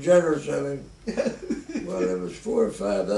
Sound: chuckles

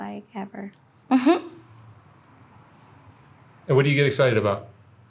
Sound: laughing

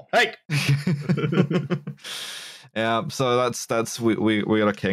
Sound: laughter

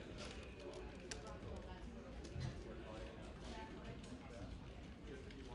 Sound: keyboard clicking

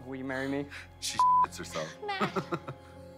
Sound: beeps

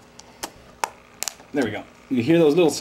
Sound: sharp snaps

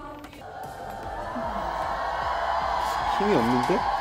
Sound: The sound of CARAT cheering from below the stage

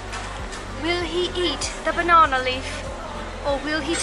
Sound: switches to a British accent

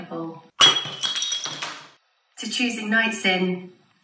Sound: glass smashes

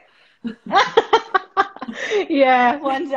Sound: laughter

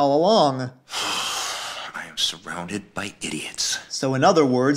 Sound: sigh

